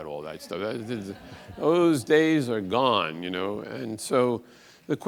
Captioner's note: audience laughs